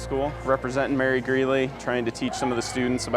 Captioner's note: students chattering